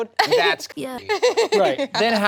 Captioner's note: people laughing